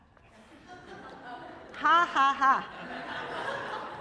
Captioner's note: laughter